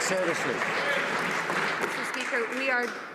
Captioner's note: some Applause